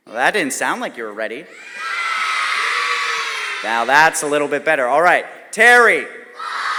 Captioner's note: crowd cheers FOX; crowd cheers FOX